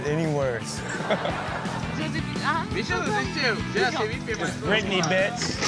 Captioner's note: audience laughs